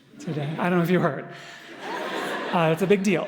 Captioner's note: audience Laughter